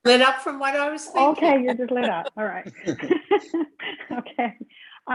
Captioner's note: laughs